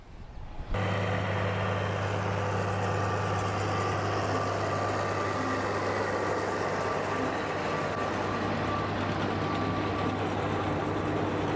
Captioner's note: tractor/baler sound